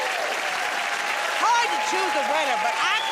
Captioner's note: cheers and applause